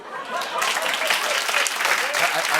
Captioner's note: applause